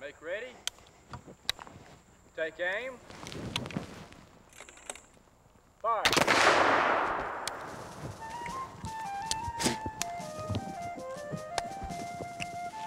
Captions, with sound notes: - Make ready. Take aim. Fire. (gunshots) (lighthearted marching music)